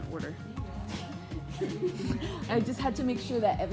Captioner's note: laughs